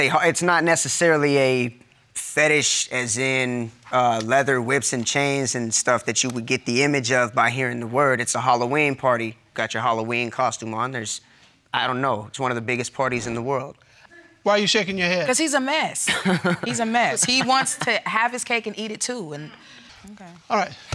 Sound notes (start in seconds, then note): 16.1 laughing